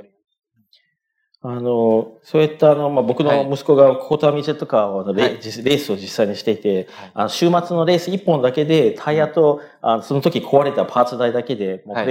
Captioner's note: speaking japanese